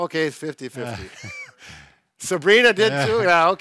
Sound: chuckles

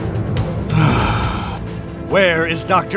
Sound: sigh

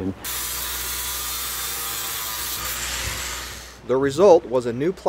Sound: grinder buzzing

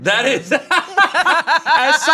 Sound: everyone laughs

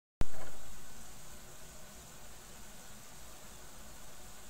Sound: camera noises

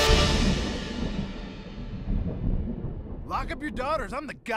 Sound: thunder

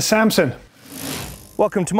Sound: quick rattle

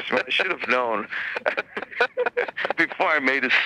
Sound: both laughing

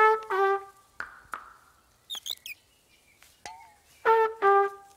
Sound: clapping; trumpet music

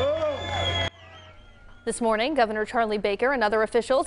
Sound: applause

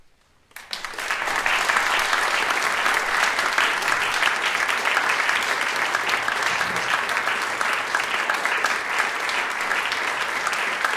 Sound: applause

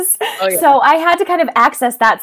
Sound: laughs loudly

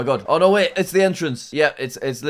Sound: record scratches

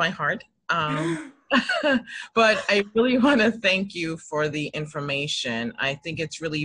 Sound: laughs

